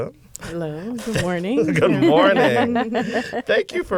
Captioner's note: laughter